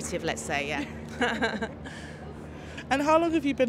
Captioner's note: laughs